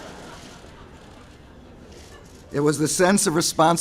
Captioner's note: laughter